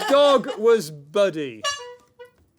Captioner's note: honk